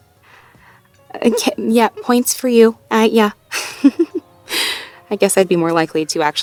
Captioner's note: laughs